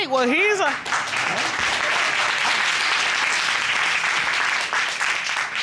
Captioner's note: applause